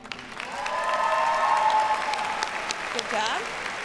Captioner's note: audience cheers and applauds